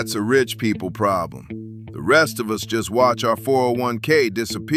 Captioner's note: flatly